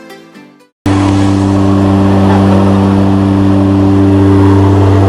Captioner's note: airplane engine roars